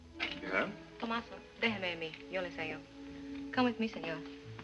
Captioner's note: speaking spanish